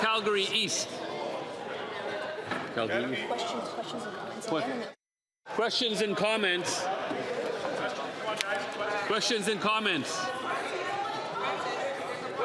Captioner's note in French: voix de l'interprète